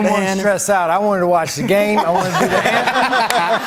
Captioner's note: laughter